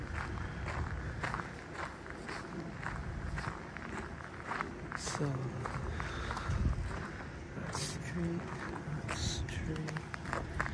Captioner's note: walking on gravel